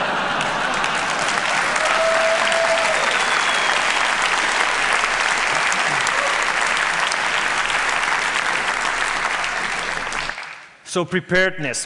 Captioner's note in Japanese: 拍手